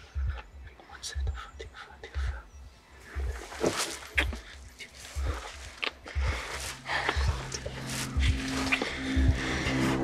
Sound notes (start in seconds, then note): 5.7 kissing; 5.9 heavy breathing